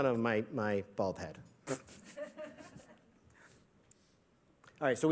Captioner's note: laughter